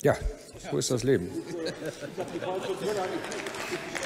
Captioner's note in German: Heiterkeit und Beifall bei der CDU/CSU